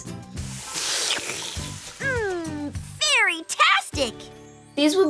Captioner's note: slurps